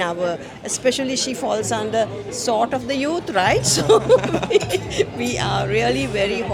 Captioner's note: laugh